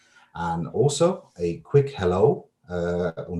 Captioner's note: speaks in foreign language